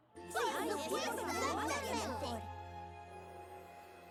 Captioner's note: affirmative chatter